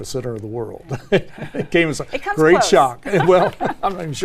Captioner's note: laugh